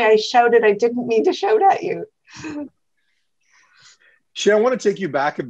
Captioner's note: chuckles